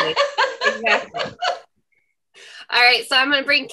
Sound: laughs

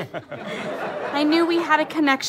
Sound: audience chuckles

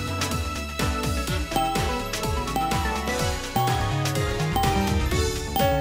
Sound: countdown chime noise

